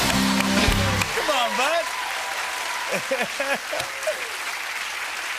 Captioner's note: cheers and applause; laughs